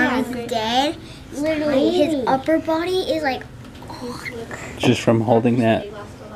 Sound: groans

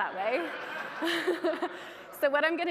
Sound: audience laughing

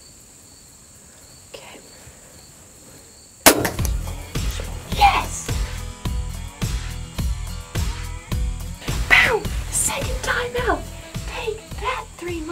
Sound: whispering

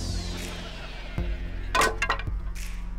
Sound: thudding

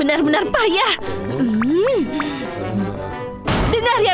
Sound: Choco growls

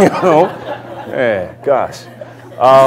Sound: laughter

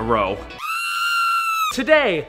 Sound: shrieking

